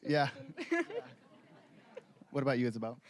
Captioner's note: both laughing